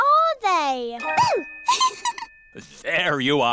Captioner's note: giggles